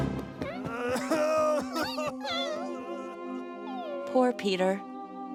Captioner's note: shouting; crying